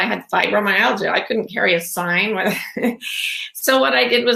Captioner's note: laughs